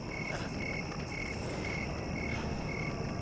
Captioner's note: crickets chirping; fire crackling